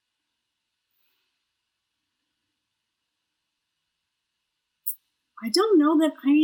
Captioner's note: silence